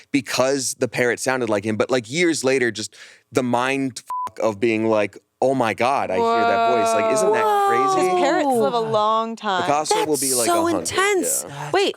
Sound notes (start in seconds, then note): 4.1 beep